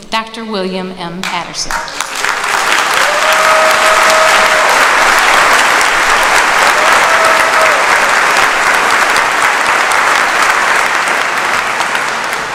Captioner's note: applause